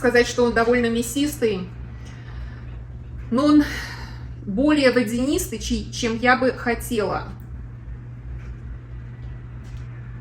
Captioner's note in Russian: вздыхает